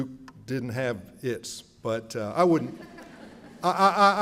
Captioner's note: laughter